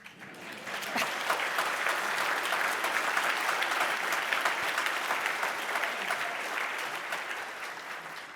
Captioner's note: applause